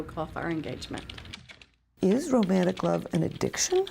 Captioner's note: computer keys clack